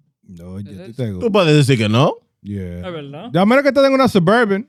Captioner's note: speaking In Foreign Language